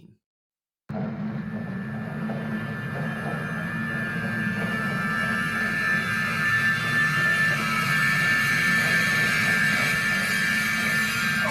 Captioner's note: rhythmic Whirring Sound